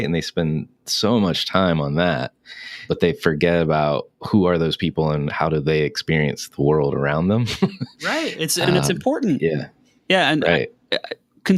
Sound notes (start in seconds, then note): 7.4 laughing